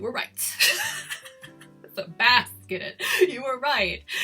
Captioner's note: laughs